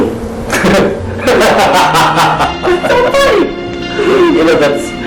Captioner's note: laughs